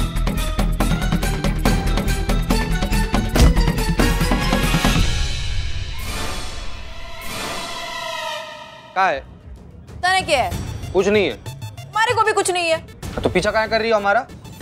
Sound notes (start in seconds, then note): 0.2 comical music; 3.3 thuds